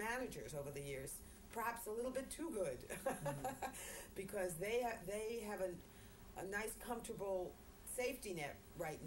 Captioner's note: laughter